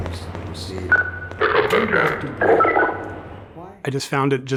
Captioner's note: radio beeping